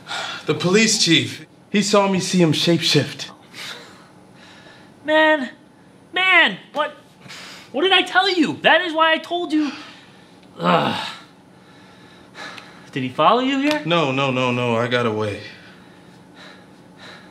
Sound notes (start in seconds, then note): 0.2 sighs; 10.5 Wesley groans